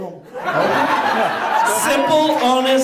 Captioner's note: audience laughs